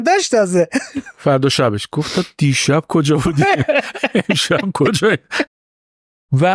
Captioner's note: laughs